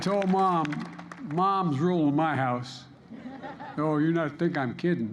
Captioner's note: laughter